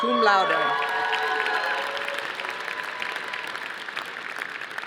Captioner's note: audience applauding